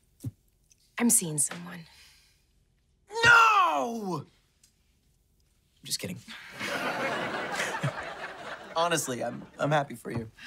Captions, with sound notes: I'm seeing someone. No! Just kidding. [chuckling] Honestly, I'm happy for you.